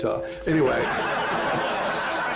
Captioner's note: laughter